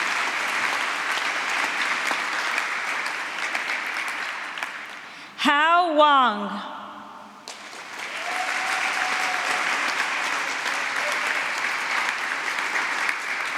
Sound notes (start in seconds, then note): 7.4 applause